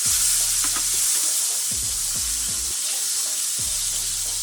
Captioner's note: sizzling